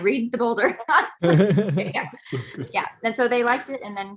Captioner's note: group laughing